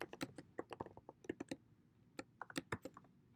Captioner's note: typing